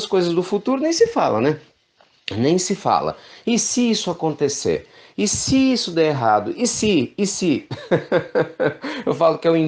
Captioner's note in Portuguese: risos